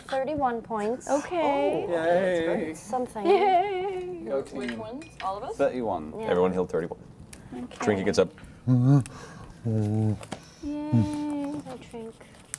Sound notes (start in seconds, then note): 8.6 bear grumbling